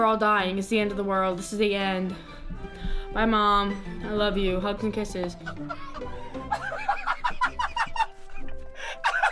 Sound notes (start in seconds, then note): 5.4 laughing